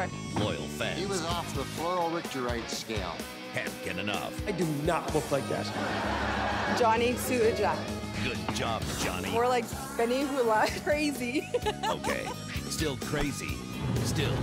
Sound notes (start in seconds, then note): 5.6 laughter